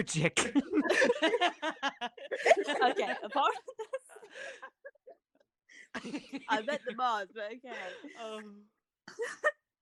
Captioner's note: laughter